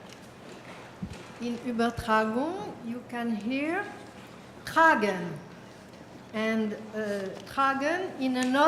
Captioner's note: french